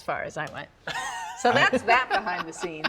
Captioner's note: laughs